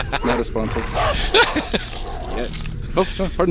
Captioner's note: laughs